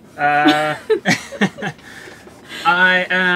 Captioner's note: laughing